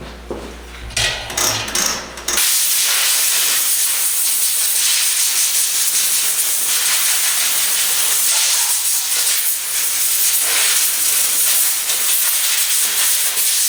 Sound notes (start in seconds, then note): 2.5 air gun blowing